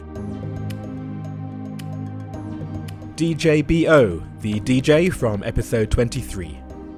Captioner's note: voiceover